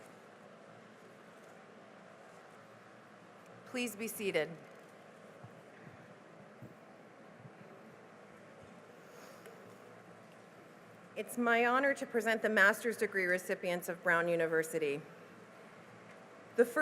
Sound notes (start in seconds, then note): none